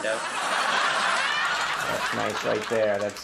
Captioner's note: audience laughing